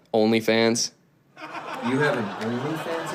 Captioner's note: audience laughs